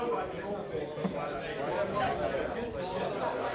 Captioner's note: indistinct chatter